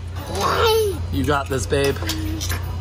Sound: growling

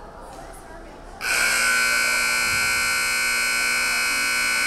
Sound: buzzer buzzing

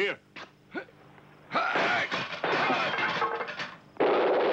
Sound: men grunting; clattering; guns blasting

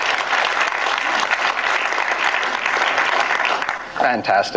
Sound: audience applauding

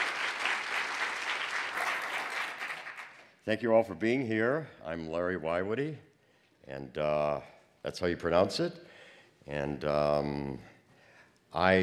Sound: applause

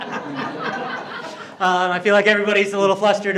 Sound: group laughing

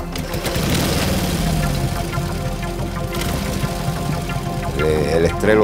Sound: motorcycle engine revs, then idles

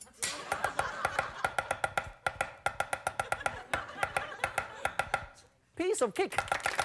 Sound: crowd; laughs; crowd; laughs; loud chopping; applause; crowd

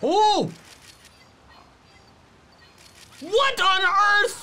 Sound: photo snapping

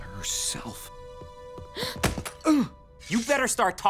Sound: gasps

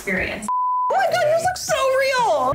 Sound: beep

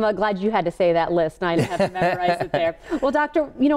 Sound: laughs

